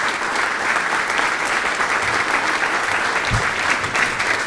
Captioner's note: audience applauding